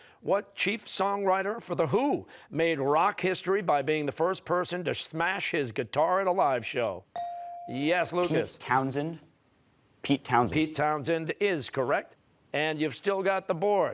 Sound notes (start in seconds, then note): none